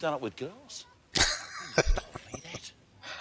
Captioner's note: laughing